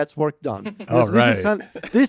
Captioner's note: laughs